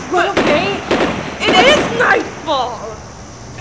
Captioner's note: gunshots